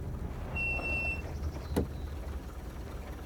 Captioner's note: brakes squeaking